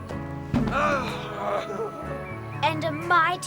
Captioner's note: Zoot yelling